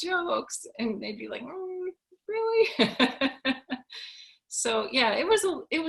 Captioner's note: laughs